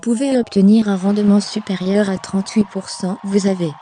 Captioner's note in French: applaudissements